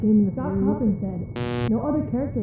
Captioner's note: muffled voice